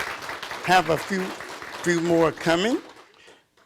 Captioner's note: audience applauding